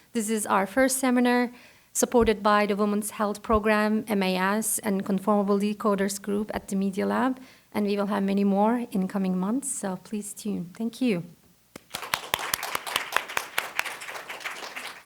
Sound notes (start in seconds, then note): 11.7 audience claps